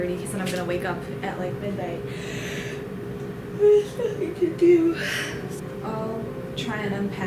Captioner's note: yawns